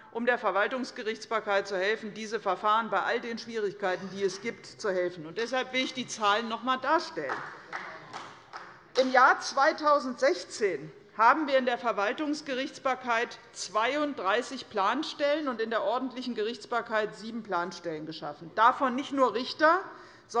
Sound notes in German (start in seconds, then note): 7.2 Beifall des Abg